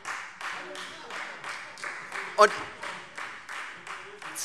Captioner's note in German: Beifall Freie Demokraten